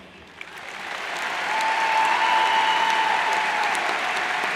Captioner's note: cheers and applauds